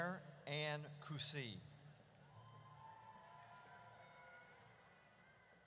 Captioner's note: audience cheers